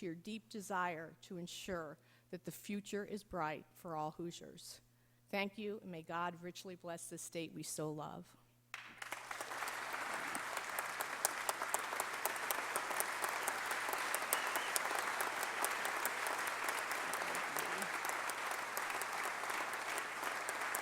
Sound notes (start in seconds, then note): 8.7 applause